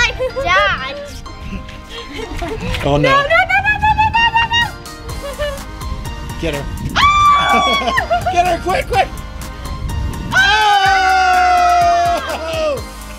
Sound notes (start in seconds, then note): 6.9 screaming; 10.4 yelling